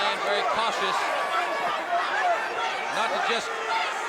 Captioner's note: crowd chatter